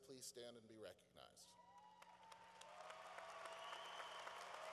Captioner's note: cheering